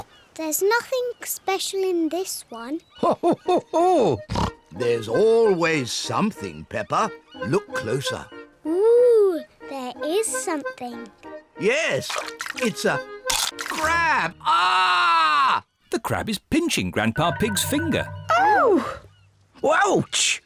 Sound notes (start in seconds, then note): 13.2 crunch; 14.4 screams